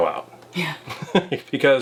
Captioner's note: laughs